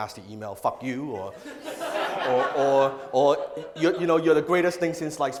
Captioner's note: audience laughs